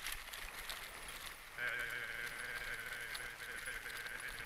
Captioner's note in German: Stimme wackelt durch die Vibrationen